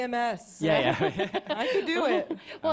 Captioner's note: laughter